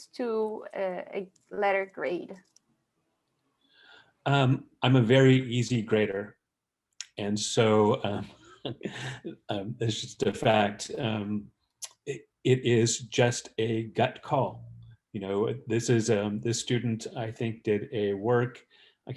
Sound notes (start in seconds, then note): 8.6 laughs